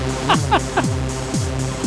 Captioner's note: upbeat electronic music; laughing